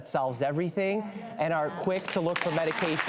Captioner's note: audience murmurs agreement; audience claps